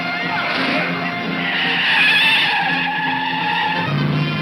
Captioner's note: tires squealing